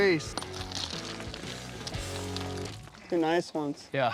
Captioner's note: rocks falling